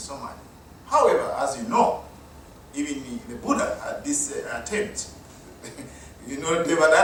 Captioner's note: chuckle